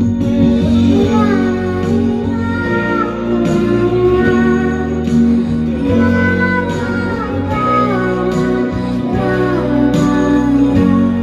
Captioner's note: humming